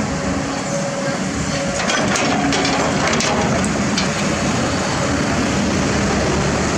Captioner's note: engine Rumble